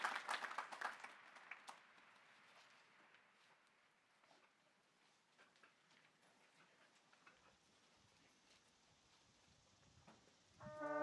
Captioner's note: applause